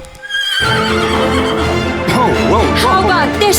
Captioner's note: dramatic orchestral music; horse neighs